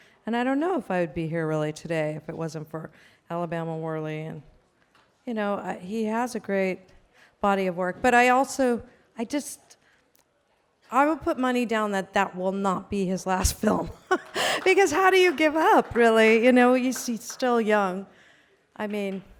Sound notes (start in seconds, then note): 13.4 laughs; 13.6 light applause